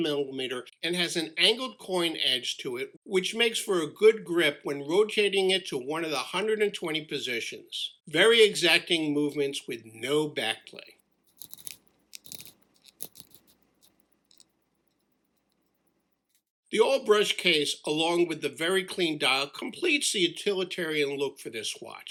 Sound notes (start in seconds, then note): 14.3 clicking Noise